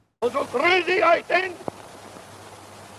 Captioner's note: speaking German